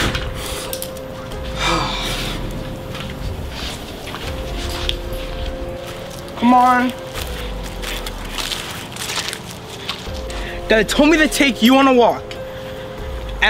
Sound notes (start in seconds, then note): 0.0 door thuds; 0.0 door clicks; 1.6 exhales; 8.2 grass rustling